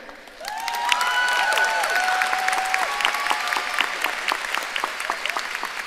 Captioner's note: audience cheering and applauding